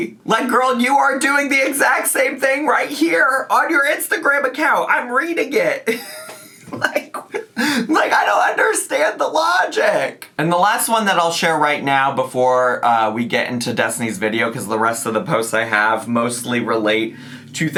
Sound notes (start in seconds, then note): 5.9 laughs